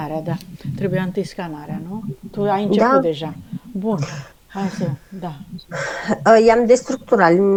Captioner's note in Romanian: râsete